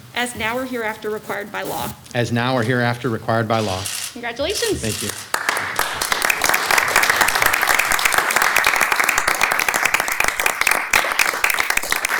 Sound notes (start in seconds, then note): 4.8 soft applause